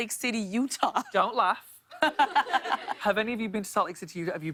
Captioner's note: laughter